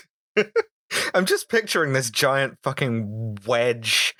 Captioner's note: laughter